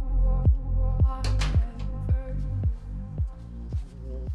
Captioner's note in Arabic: يغلق الباب بنقرة